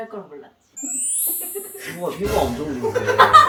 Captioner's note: Hehe